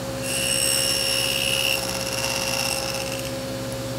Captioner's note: saw whirring